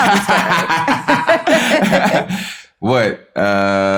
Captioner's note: laughter